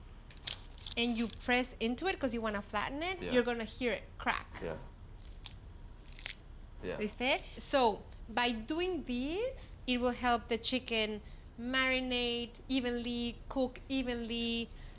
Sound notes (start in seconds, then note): 6.0 crack; 6.9 speaks Spanish